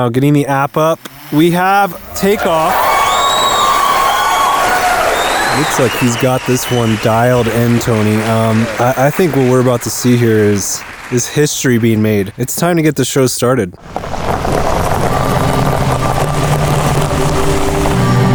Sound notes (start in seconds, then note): 2.9 crowd cheering; 14.2 tires scrunching; 15.6 gentle music